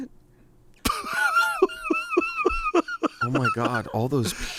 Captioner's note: laughs